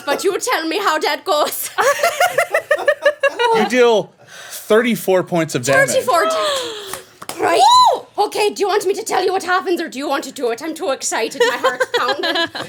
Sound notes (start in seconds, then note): 1.9 everyone laughing